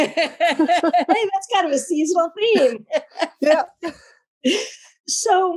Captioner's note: laugh